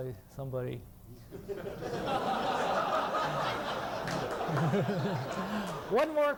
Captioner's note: laughter